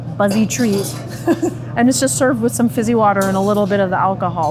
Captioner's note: chuckles